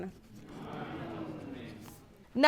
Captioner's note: audience murmuring